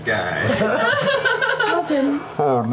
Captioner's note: laughter